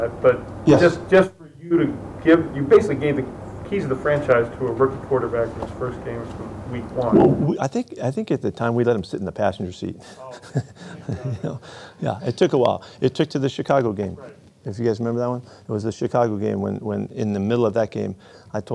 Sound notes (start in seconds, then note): 10.0 chuckles